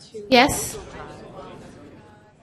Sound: voiceover

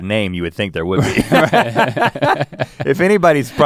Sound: both laughing

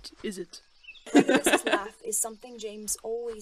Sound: Regulus laughs

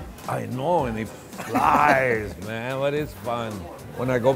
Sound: laughs

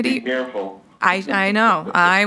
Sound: bell

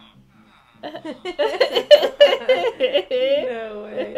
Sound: laughter

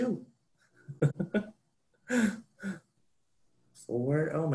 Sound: laughs

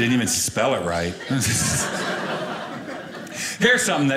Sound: audience laughing

